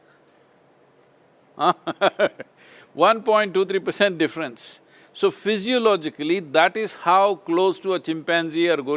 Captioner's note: laughs